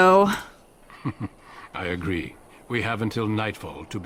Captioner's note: Duncan laughs